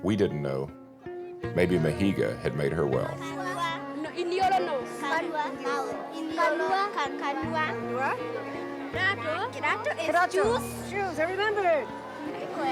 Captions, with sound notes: We didn't know. Maybe Mahiga had made her well. (children speaking in native language) - Shoes. I remember it.